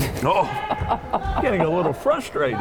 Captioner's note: laughing